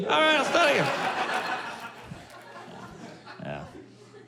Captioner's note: laughter